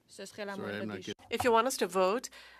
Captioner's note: speaking French